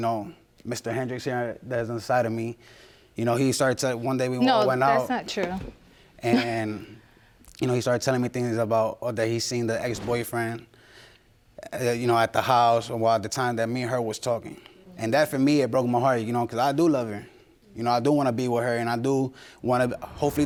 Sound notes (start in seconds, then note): 6.2 chuckles